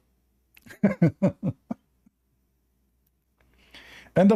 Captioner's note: Ketawa